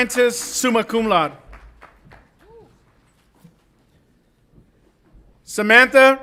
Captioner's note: audience applauds and cheers